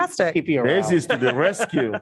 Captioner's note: laughter